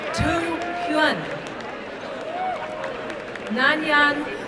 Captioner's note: applause and cheering